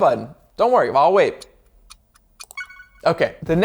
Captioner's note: clock ticks